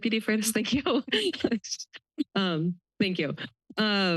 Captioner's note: laughter